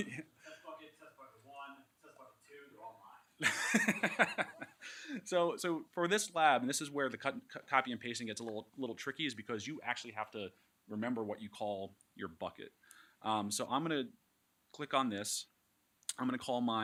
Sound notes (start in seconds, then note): 3.4 laughs